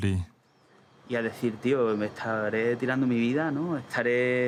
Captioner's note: speaking Spanish